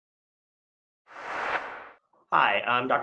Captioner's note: whoosh